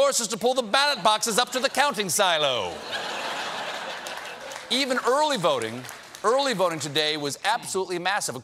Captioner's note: laughter